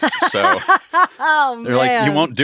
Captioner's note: laughing